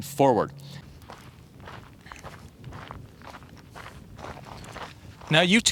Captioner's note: footstep clanging